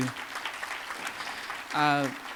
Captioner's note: applause